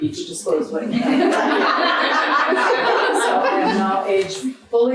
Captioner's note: audience laughs